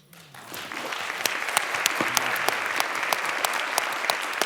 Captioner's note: applause